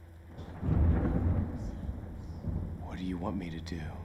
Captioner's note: thunder rumbling